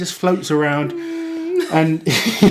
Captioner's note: humming